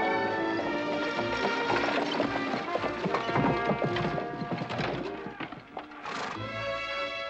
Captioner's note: buggy rattling